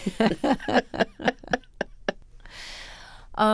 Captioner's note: laughter